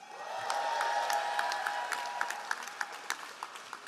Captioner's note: all applauding